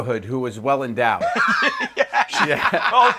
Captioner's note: laughter